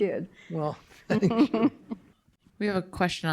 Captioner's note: chuckling